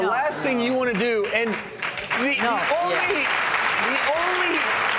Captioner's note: applause